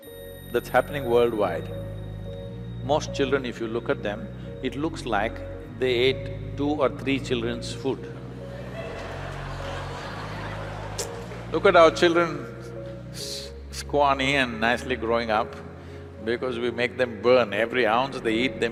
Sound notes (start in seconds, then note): 8.5 audience laugh